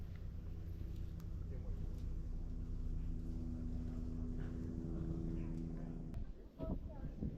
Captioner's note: the sound of a helicoptor is echoing